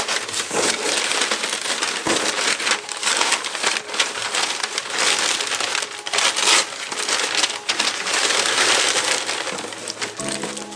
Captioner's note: paper screaming